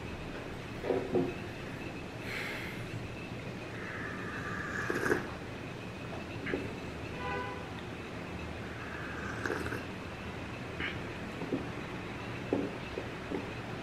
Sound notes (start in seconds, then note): 4.1 sip